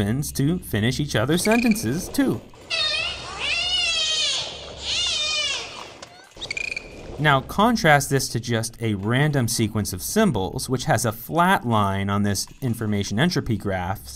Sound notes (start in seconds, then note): 2.6 dolphin whistles and clicks